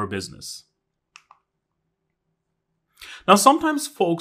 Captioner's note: remote clicking